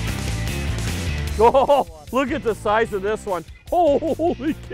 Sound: laughing

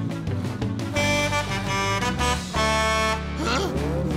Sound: truck horn

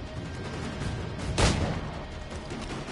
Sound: gunshot

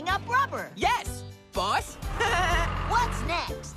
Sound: chuckles

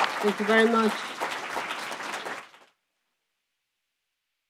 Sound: audience applauds

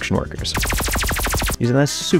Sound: lasers zapping

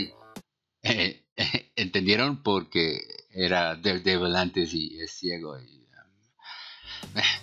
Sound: sigh

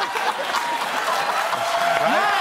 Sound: cheers and applause

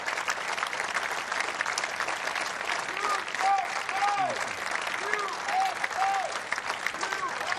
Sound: applause

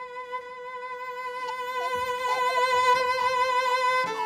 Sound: baby giggling

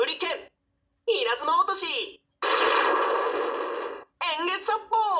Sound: lightning drop

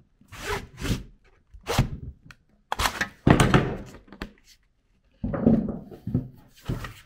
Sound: angling tool scraping; angling tool thumping

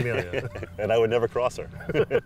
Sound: laugh

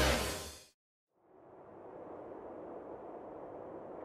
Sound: wind howling

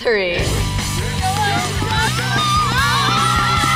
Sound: group cheers

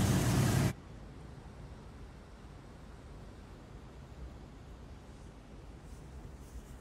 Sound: quiet sounds of nature

